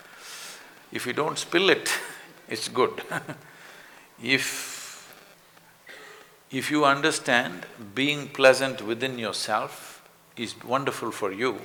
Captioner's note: laughs